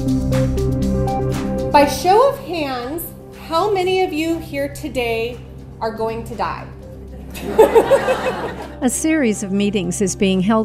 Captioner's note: laughter